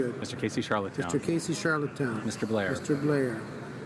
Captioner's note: speaking in french